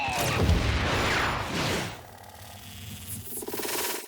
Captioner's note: fireworks whistle and explode